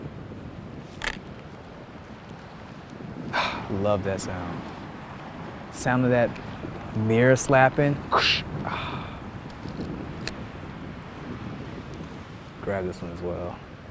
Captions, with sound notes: (camera clicks) Ah, love that sound. Sound of that mirror slapping. (imitating mirror sound) Ah, grab this one as well.